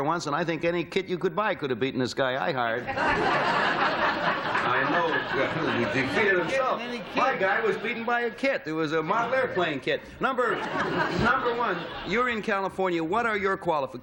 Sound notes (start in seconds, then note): 2.8 laughter